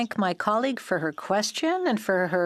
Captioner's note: speaking French